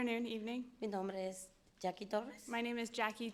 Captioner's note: speaking in foreign language